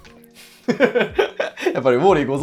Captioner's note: laughing